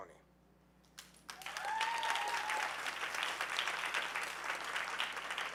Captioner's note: audience cheering